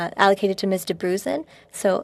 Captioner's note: speaking French